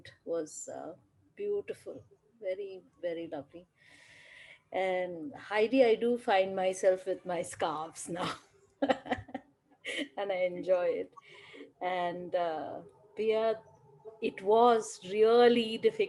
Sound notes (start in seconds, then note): 8.8 laughter